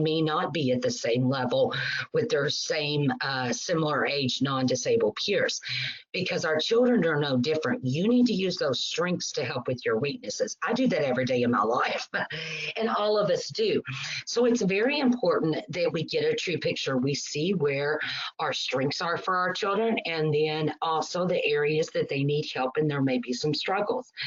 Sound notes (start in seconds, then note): 11.9 chuckles